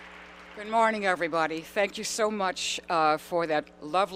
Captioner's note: applause